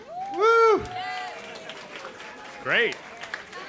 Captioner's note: applause